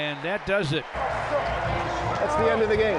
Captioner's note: crowd yelling